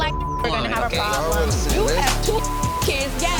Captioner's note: beep; people yelling at once